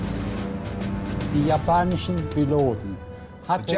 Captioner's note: speaking german